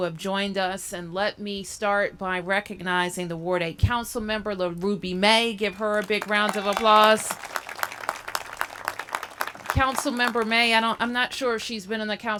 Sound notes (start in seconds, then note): 7.8 applause